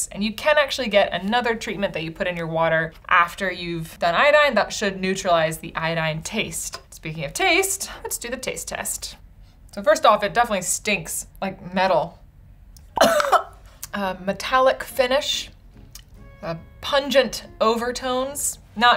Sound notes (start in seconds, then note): 12.9 coughs